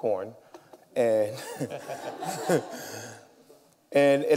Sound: laughter

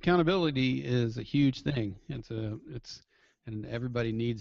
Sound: voiceover

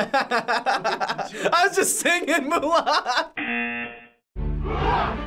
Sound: laughing; buzzer

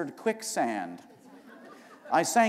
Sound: laughter

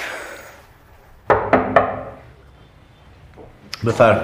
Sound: door knocking

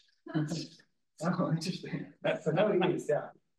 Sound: group chuckles

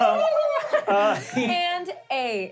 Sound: laughing; trilling

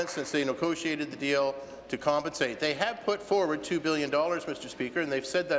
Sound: some applause

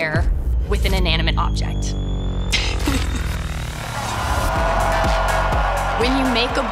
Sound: laughs

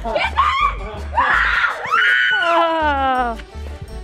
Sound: screaming

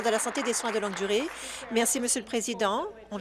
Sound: applause

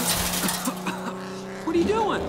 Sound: Lightning coughs

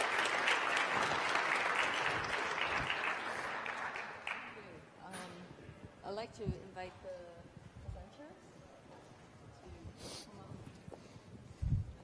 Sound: applause

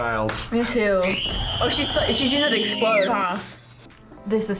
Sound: girl screams

